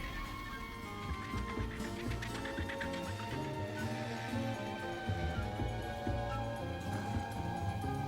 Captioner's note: squawking